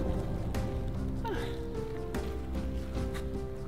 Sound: exclaims

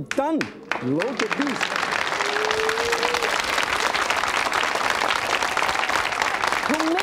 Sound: audience clapping

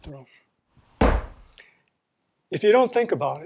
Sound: slams clay on wheel

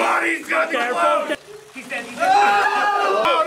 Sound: yelling

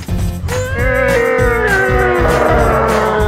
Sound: grunting

